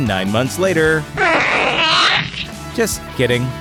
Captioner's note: alien chirps